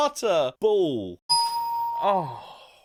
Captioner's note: bell Ringing